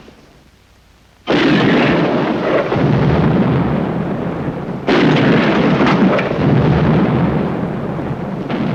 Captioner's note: cannons booming; explosions